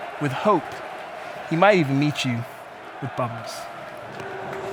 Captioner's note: whistle